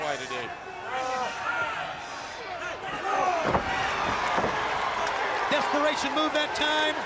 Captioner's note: crowd cheering